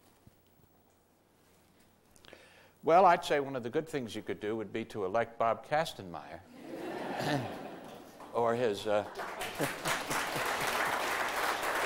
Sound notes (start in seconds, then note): 6.5 audience laughter; 8.1 applause